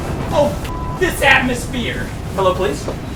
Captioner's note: beep